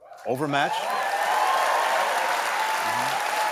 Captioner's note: applause